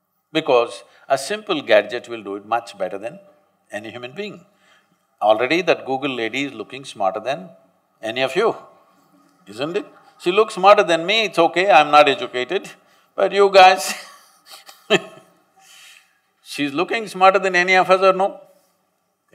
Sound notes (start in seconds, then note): 13.8 laughs